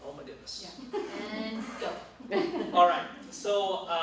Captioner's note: laughter